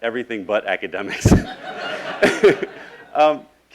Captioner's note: laughing